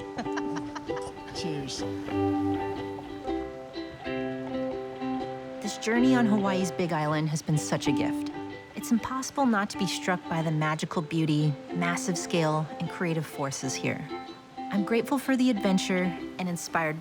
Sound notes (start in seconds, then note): 2.6 laughs; 4.3 playful ukulele music